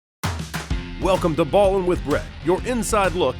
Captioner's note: upbeat music; voiceover